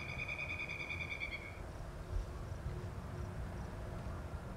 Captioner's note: wildlife chirping